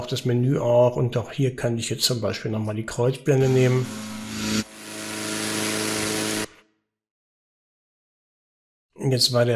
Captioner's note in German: Gebläsegeräusch